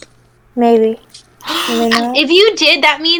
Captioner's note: gasps